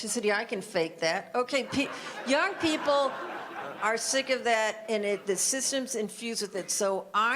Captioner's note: audience laughter